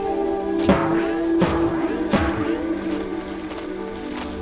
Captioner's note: boinging